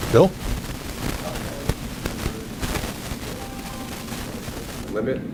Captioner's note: recording crackling